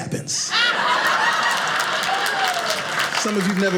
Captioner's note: audience laughing